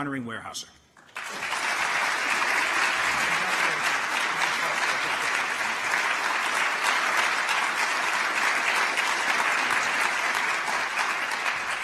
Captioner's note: applause